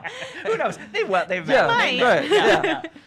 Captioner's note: chuckling